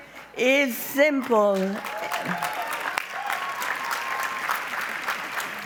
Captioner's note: audience applauds